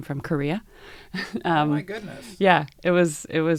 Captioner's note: laugh